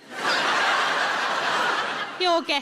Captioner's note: audience laughing